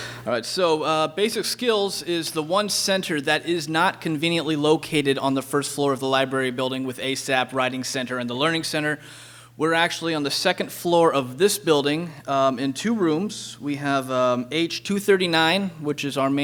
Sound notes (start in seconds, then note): none